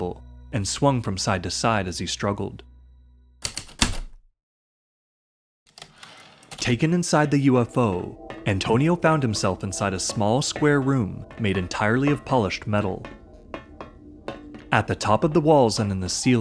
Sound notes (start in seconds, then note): 3.4 heavy typewriter keystrokes, typewriter return slide